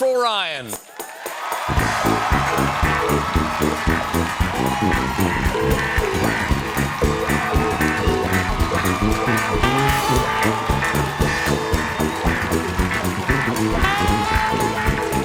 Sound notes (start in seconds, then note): 4.7 band playing; 4.7 cheers and applause